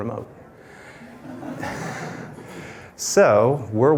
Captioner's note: laughter